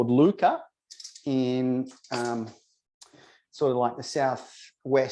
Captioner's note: tongs rattling